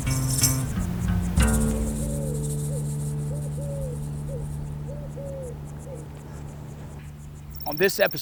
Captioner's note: sounds of wild birds in background